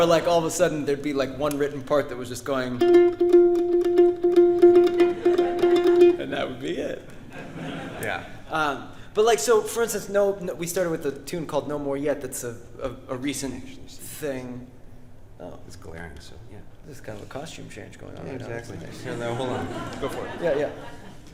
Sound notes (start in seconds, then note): 2.4 mandolin playing; 2.9 audience laughing; 18.8 audience laughing